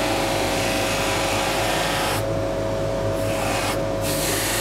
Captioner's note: buzzing polishing noise